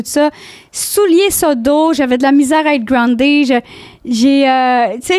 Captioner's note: in french